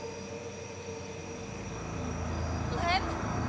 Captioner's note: crickets chirping